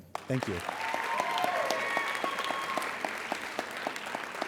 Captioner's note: applauding